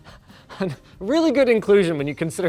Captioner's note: chuckling